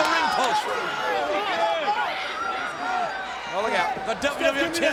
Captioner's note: crowd chattering